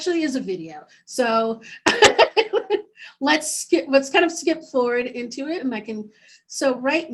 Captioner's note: laughing